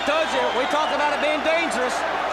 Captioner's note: crowd cheering